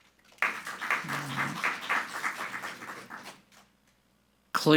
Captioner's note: group clapping